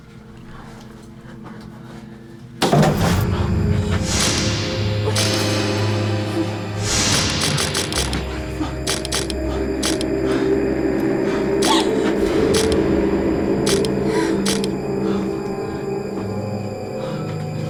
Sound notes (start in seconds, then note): 8.8 camera clicking; 11.2 Lindsay gasping; 14.4 camera clicking; 17.4 haunting music